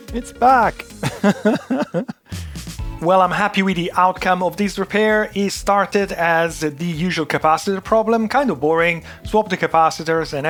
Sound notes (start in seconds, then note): 1.0 laughs